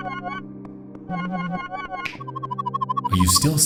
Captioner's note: bright tones; warbling sound